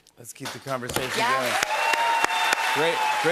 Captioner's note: cheers and applause